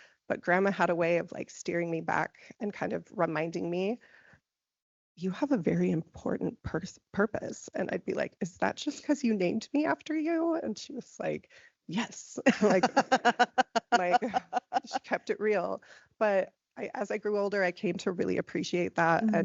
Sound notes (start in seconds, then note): 12.4 laughing